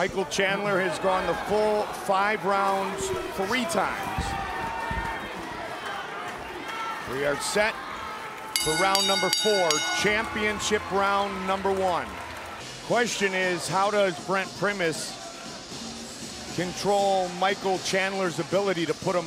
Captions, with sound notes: - Michael Chandler has gone the full five rounds three times. (bell rings) We are set for round number four, championship round number one. (music and applause) - The question is, how does Brent Primus